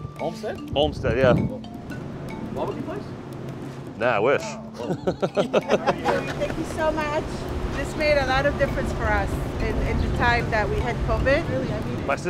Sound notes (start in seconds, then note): 4.5 laughing